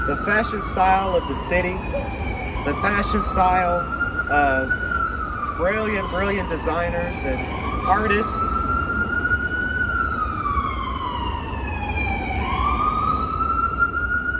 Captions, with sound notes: the fashion style of the city, the fashion style of brilliant, brilliant designers and artists. (siren wailing)